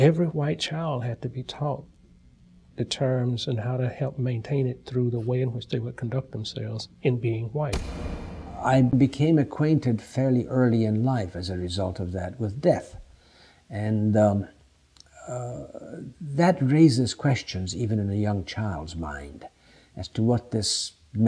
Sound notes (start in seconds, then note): 7.7 sound of door slamming